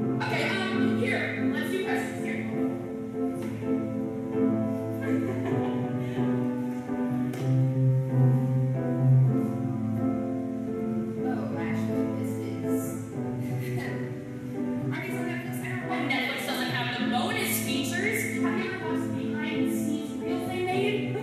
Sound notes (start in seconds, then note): 4.9 awkward laughter; 13.4 awkward laugh